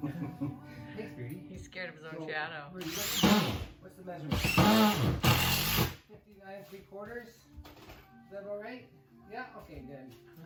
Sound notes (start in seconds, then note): 0.0 laughs; 4.3 drill sounds